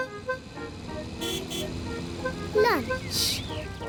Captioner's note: horn honks